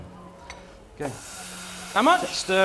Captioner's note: sizzles